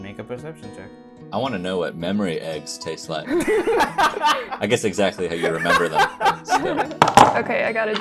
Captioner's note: laughter